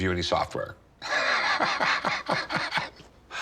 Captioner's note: laughs